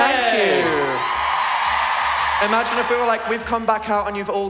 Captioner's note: cheering